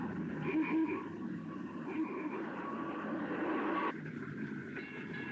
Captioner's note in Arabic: صوت بوق السيارة